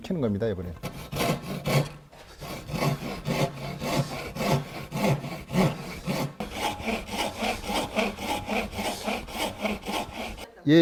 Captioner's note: sawing sound